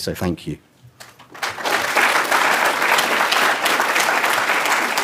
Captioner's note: applause